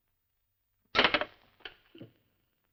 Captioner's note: clattering